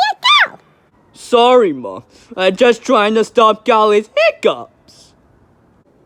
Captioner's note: sniff